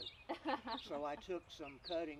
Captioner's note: laughing